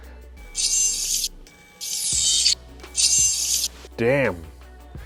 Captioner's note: robotic movement sound